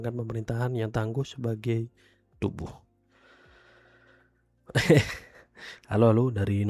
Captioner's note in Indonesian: tertawa